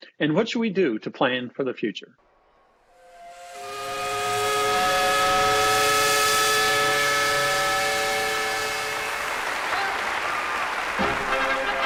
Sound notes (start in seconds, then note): 2.4 steam whistle; 8.6 applause; 11.6 marching band music